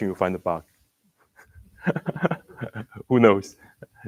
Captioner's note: laughs